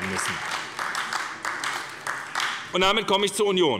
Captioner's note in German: Beifall bei der SPD